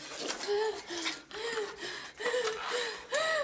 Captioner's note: tools clatter; rapid gasps